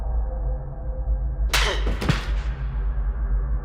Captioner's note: hard slap